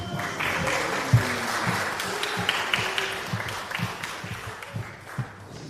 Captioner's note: applause